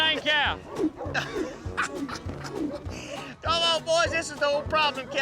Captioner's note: laughing